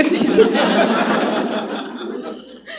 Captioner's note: laughter